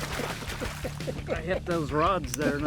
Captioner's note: chuckling